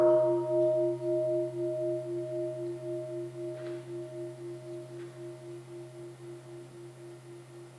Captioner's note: sound of the bell